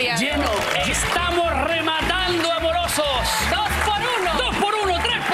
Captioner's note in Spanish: aplausos